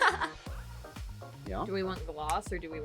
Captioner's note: laughing